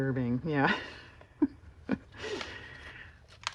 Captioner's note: laughs